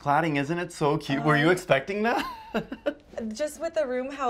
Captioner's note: laughs